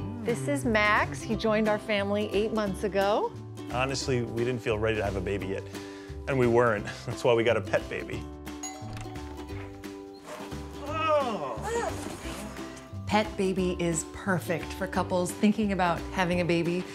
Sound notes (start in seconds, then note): 8.6 doorbell rings